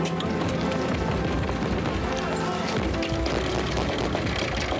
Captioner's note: banging on door